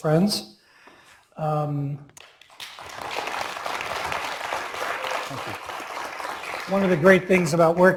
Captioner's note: applause